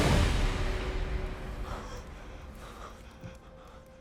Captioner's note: panting